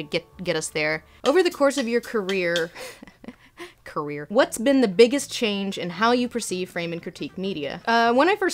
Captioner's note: laughs